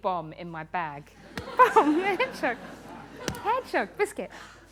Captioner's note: laughter